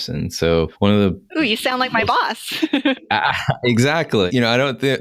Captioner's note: laughing